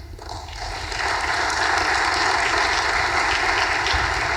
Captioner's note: audience applause